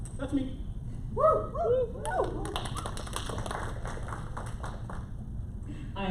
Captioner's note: applause